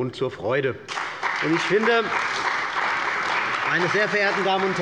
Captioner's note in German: Beifall bei der CDU und dem BÜNDNIS 90/DIE GRÜNEN